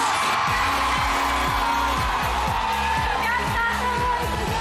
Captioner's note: audience cheering